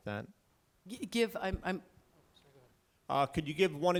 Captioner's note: stutters